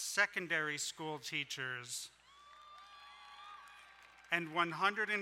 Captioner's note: crowd cheering